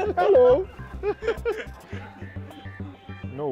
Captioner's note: laughter